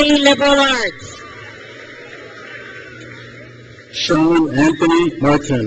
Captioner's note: crowd cheers